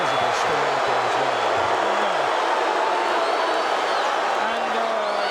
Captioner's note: audience cheering